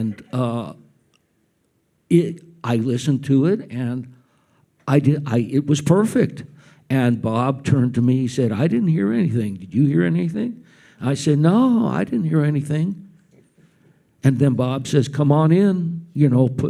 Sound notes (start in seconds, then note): none